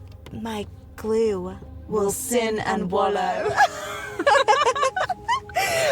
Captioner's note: they both laugh